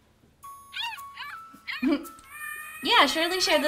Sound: cute puppy video sounds

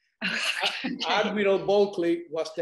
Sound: laughs

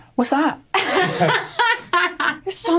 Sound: laughing

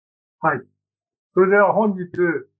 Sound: speaking japanese

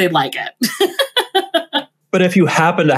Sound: laughs

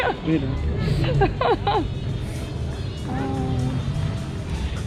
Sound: laughter of relief

